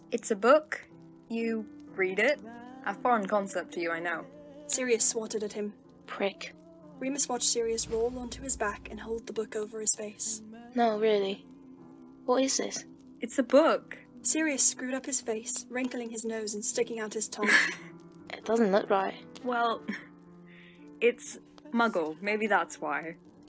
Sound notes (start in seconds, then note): 17.6 Remus laughs